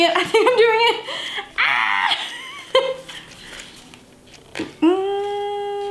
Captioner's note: laughs